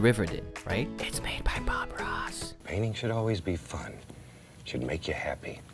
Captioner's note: whispers